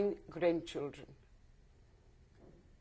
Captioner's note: pauses for 3 seconds